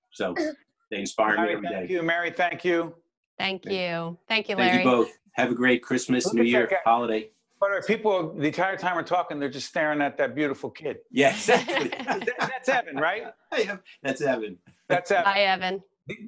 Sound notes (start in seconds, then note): 11.1 laughing